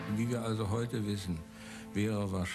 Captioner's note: speaking in German